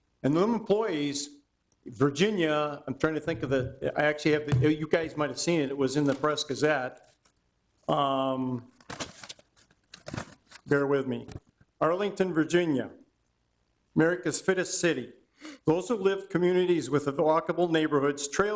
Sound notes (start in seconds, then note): 8.8 paper rustling